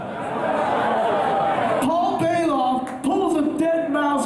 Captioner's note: crowd laughing